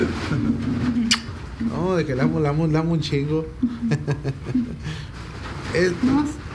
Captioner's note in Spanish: risa